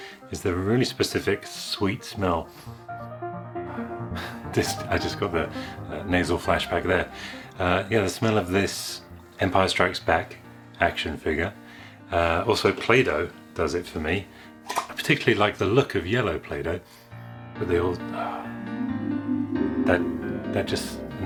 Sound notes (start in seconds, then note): 2.4 sniffing; 14.6 lid Popping; 18.6 fantasy Magic Warble Sound Effect